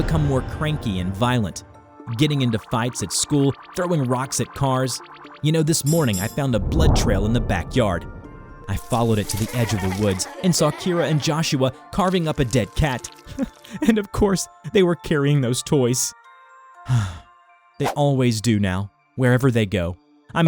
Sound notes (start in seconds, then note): 13.2 sobs; 16.8 deep breath